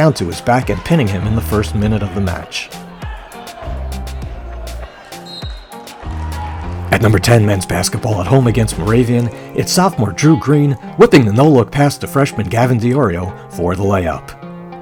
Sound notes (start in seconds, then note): 3.9 upbeat music; 5.3 whistle blowing; 6.5 crowd cheering